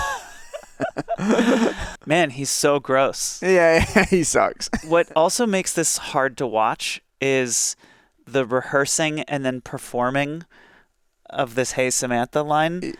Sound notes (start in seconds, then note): 0.0 interviewer and Joel laughing; 3.5 laughs